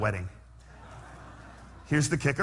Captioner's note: laughter